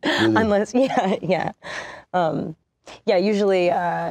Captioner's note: laughs